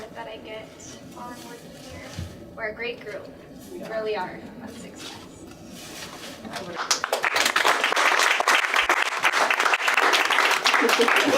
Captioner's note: applause